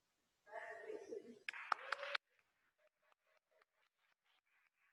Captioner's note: audience clapping